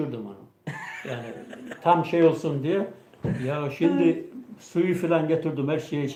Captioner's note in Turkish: kahkaha